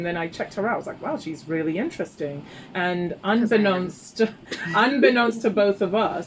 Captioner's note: laughs